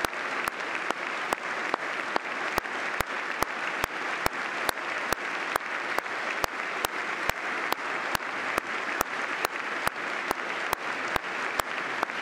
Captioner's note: applause